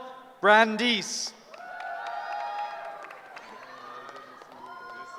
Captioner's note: cheering